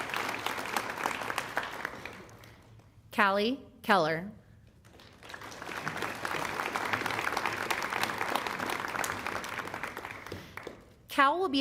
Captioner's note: applause